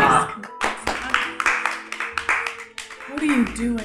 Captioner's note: applause